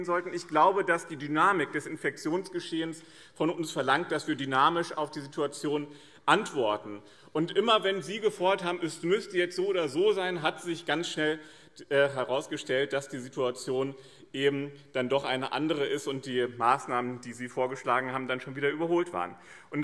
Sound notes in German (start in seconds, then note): none